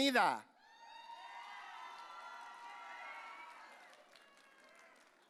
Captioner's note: audience cheering